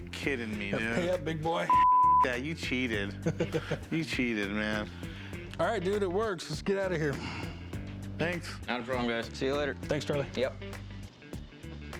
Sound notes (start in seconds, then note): 2.8 laughs